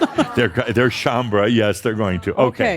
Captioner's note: some chuckles